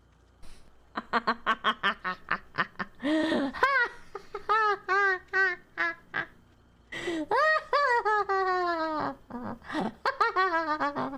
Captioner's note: laughs evilly